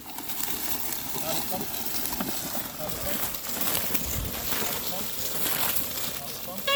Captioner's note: shrubbery rustles; plow creaks